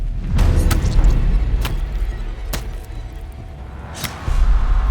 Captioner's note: sword clinks